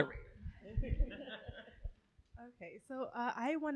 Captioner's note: laughing